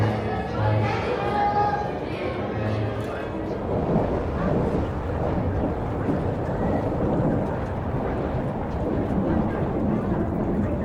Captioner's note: crowd chattering